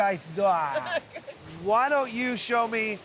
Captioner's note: laughing